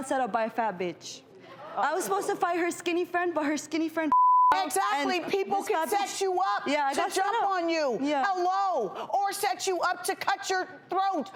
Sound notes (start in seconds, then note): 4.1 beep